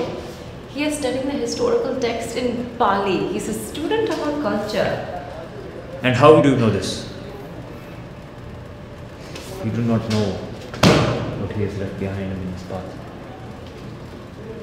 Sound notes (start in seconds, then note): 10.7 paper slams